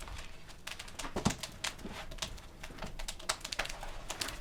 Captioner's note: fire crackling